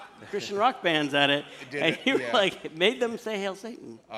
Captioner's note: laughter